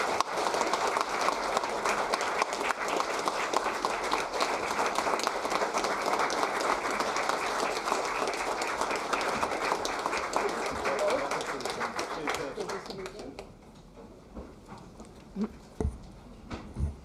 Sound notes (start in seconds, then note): 0.0 applause